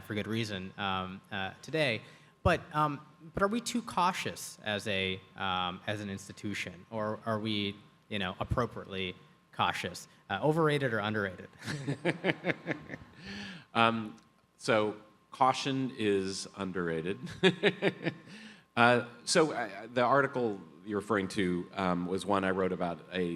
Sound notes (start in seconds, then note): 11.6 Atul laughs; 17.2 laughs